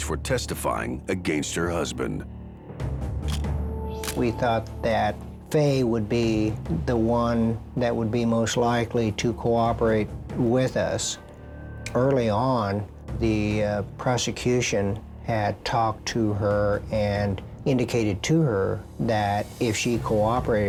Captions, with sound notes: FOR TESTIFYING AGAINST HER HUSBAND. (camera shutter click) WE THOUGHT THAT FAYE WOULD BE THE ONE THAT WOULD BE MOST LIKELY TO COOPERATE WITH US. EARLY ON THE PROSECUTION HAD TALKED TO HER, AND INDICATED TO HER THAT IF SHE COOPERATED